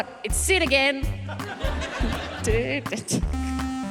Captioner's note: hums; ascending keyboard notes play